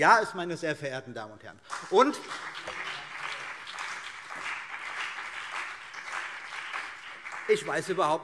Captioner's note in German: Beifall CDU und BÜNDNIS 90/DIE GRÜNEN